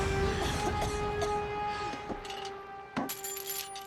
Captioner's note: coughing